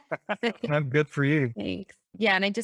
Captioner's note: laughs